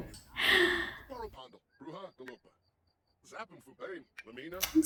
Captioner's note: sims talking